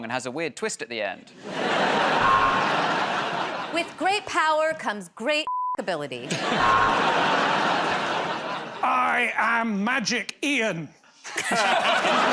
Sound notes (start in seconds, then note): 2.2 buzzer buzzes; 6.6 buzzer buzzes